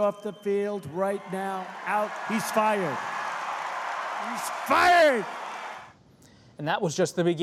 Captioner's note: applause